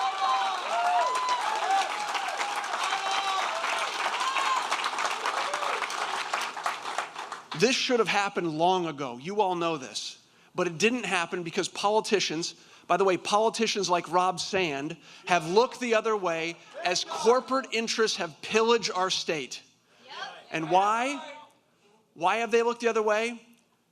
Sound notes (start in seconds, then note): 2.9 applause